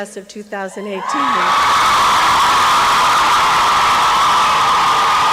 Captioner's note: applause and cheering